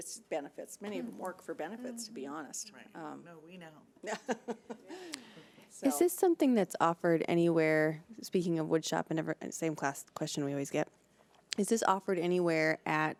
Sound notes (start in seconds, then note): 4.0 laughs